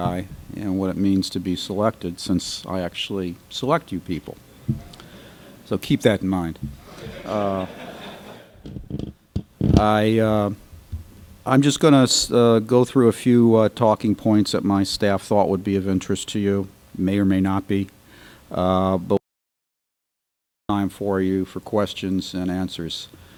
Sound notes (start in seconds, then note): 6.8 laughter